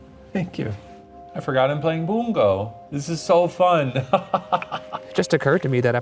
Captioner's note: laughs